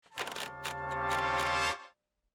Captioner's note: wheel clicks